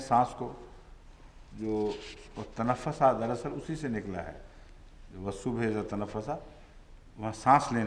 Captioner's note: Arabic